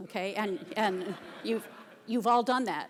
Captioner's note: audience laughter